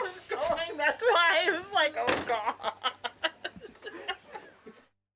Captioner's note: laughs